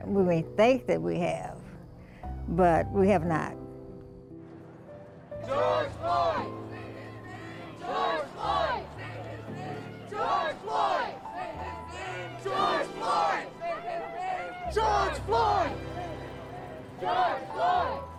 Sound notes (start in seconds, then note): 5.7 crowd